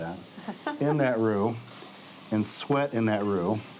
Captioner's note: laughs